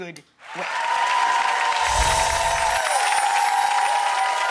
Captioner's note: audience cheers